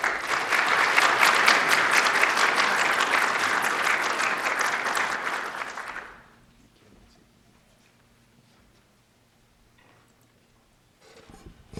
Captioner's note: applause